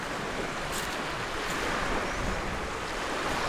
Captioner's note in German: Wellenrauschen